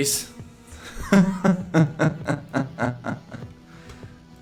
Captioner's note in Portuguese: Ha ha ha ha ha